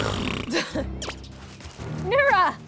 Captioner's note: scoffs